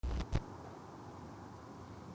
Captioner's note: crackling static; quiet wind and traffic